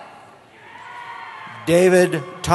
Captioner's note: cheering